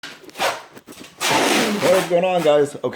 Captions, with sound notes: (plastic crinkling) - What is goin' on, guys?